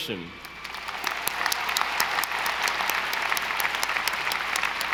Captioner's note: audience applauding